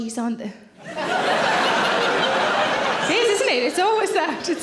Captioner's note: audience laughs